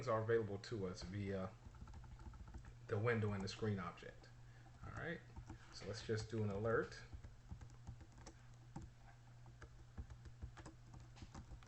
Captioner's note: typing sounds